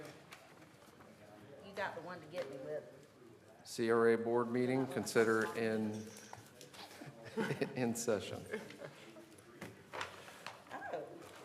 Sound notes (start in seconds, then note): 6.9 laughter